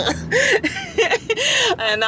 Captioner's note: laughs